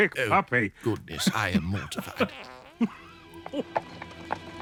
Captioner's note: chuckling; another soft fart